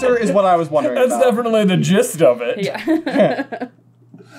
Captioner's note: laughing